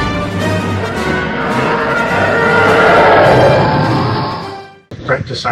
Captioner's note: sounds of a laser firefight; TIE fighter scream